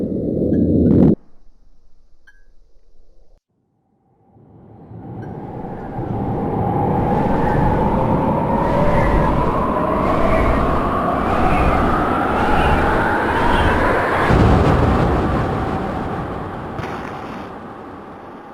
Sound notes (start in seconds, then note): 5.9 wind whooshing